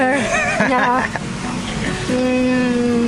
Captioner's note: laughter